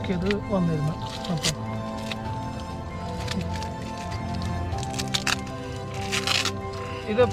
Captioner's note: tearing